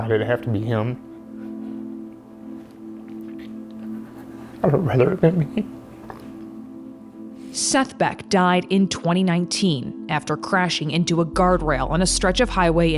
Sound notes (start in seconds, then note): 3.6 sobs